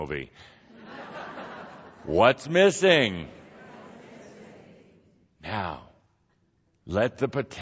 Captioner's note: laughter as Kuthumi jests